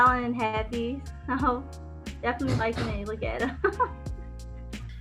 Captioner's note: chuckles